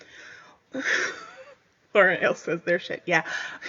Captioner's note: laughs